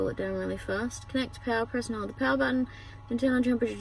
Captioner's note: reads fast